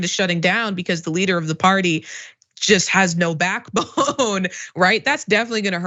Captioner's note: laugh